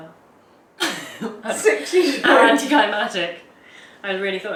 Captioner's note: laughs